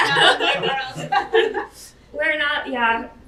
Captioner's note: panelists chatter